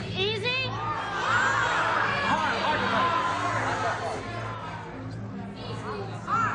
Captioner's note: suspenseful music; audience shouting